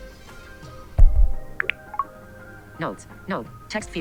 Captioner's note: popping sound